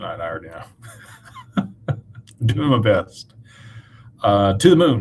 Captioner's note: laughter